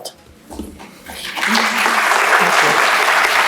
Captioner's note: applauds